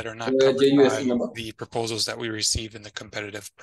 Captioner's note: faintly speaking